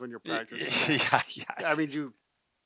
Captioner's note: laughing